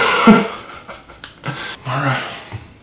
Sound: laughs

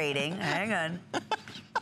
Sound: laughter

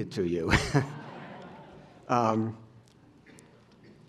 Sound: laughter

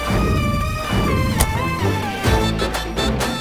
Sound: door closes

